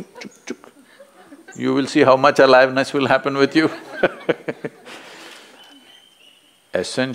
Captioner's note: laughs